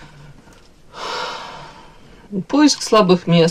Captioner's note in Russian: вздыхает